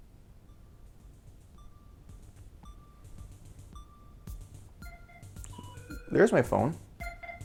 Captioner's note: phone rings